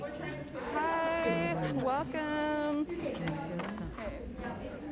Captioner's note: speaking Chinese